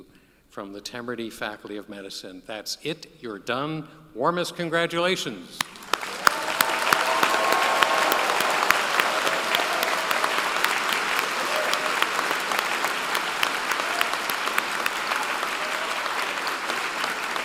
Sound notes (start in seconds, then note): 11.1 applause